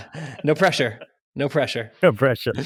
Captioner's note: laughs